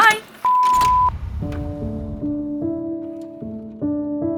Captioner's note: phone beeping